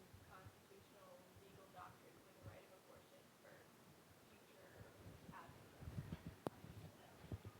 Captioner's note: student speaking faintly